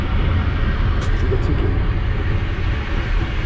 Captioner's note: engine noise continues